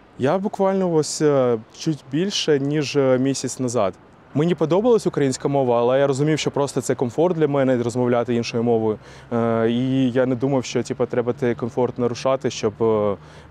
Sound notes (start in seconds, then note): 6.9 the russian language